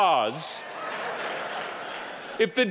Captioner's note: audience laughing